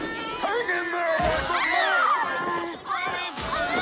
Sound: screams

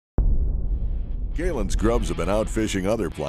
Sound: voiceover

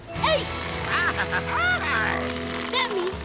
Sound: bleating

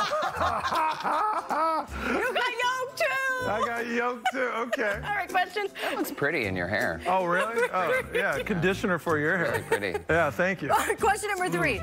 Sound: laughter; laughter

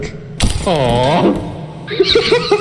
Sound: bottles breaking; wheezing and laughing

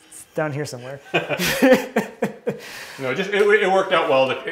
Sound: both laugh

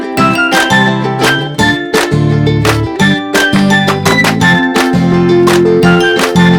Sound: applause

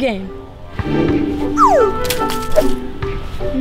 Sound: slide whistle

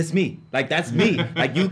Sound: laughs

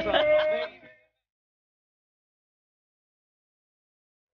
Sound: crew member laughing

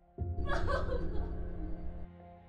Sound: cries

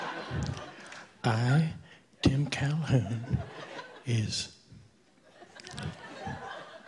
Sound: audience laughing

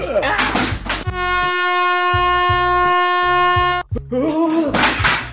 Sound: horn honks loudly

